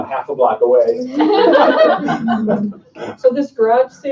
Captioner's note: laughing